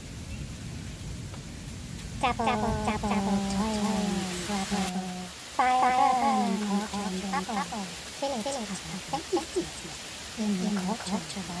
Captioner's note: rain Pouring